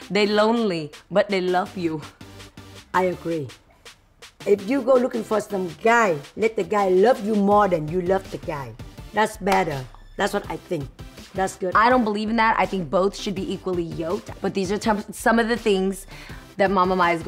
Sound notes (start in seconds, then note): none